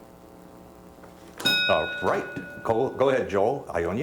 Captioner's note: bell dings